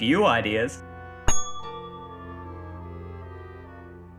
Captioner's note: multiple bell dings